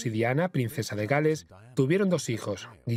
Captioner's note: voiceover